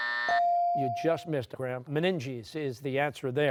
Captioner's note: buzzer